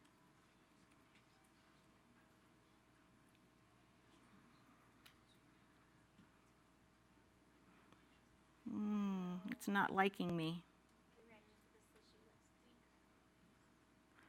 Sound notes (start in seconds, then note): 0.0 silence